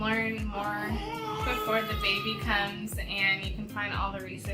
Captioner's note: baby crying